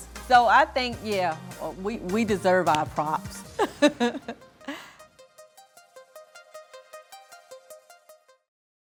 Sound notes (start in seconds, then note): 3.6 laughs; 4.7 gentle computerized music